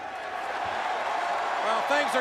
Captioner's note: crowd cheering and booing